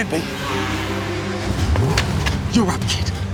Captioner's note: more BRAAPP